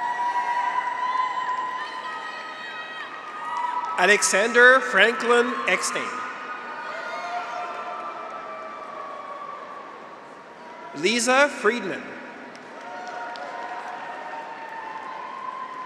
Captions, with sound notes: (graduates cheer) (audience applauds) Alexander Franklin Eckstein. (graduates cheer) (audience applauds) Lisa Friedmann. (graduates cheer) (audience applauds)